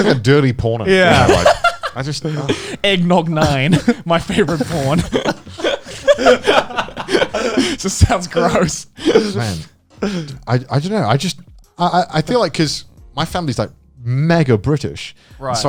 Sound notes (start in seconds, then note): 0.0 both chuckling; 8.1 all laughing